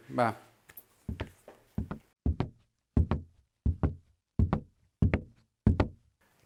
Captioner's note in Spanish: pasos